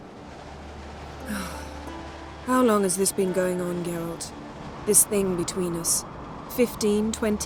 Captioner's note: sigh